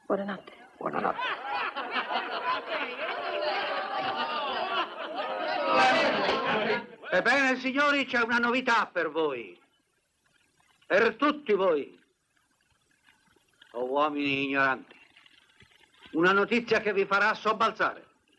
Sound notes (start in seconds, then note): 6.5 laughing; 13.1 chattering stops